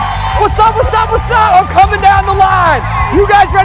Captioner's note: cheers and applause